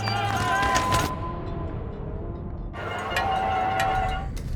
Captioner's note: clock counting down; crowd cheering